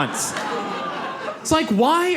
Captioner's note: audience laughs